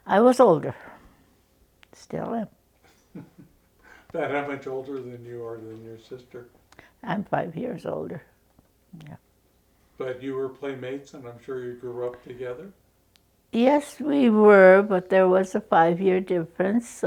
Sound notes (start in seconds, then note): 2.8 chuckles